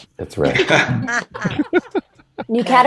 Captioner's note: all laughing